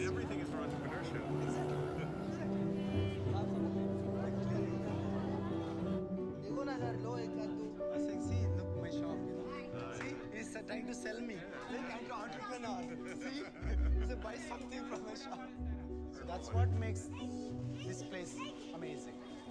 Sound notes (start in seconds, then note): 1.8 Arthur chuckles; 2.8 speaking foreign language; 12.8 laughing